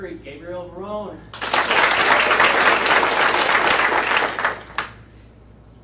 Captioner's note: audience applauding